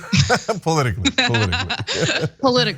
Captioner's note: laugh